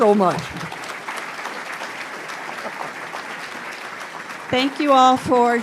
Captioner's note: audience applauds